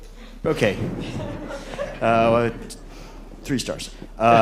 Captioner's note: laughter